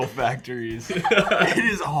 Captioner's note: all laughing